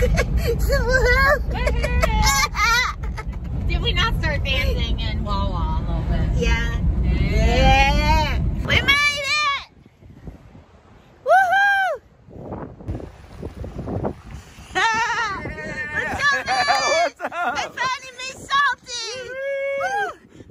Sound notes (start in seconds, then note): 0.0 laughing; 12.7 wind blowing; 14.8 cheering; 19.9 cheers